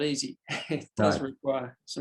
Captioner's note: chuckles briefly